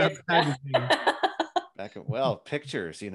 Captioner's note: laughs